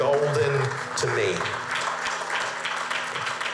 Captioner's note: applause